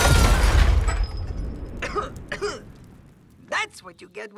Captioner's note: coughing